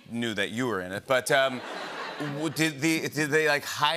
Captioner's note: laughter